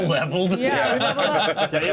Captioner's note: laughter